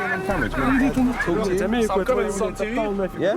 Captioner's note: men chattering